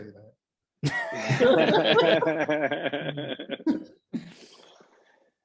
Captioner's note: laughter